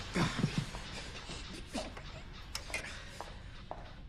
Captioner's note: grunting